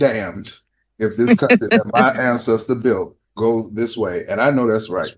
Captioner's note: laughter